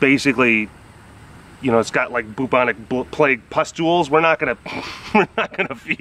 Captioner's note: laughs